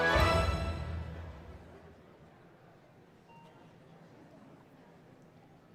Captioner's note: audience chattering